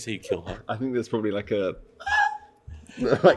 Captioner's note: breathless high-pitched scream